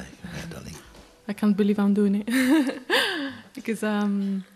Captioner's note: chuckles